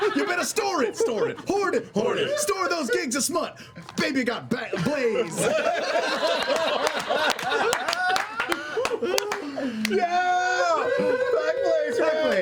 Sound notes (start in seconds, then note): 5.4 cheering